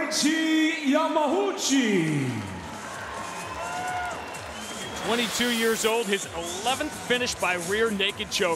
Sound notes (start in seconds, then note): 2.3 cheers, whistles, applause